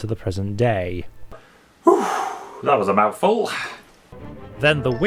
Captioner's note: sighs heavily